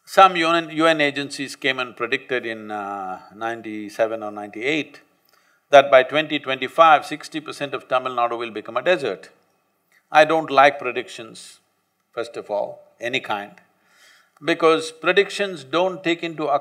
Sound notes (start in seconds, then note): none